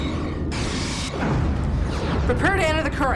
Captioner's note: explosion